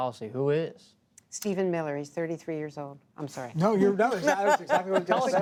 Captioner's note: laughter